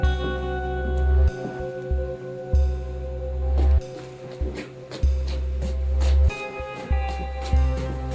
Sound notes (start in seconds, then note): 0.6 footsteps; 4.3 ominous music